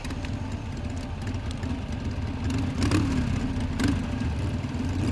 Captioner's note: motorbike revving